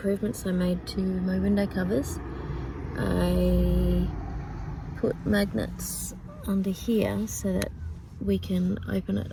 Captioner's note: car goes past